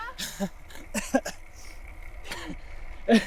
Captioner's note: laughing